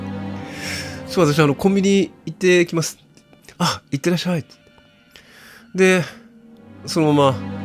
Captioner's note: sigh